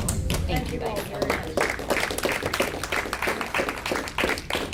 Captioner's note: audience claps